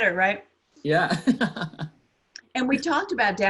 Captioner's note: laughs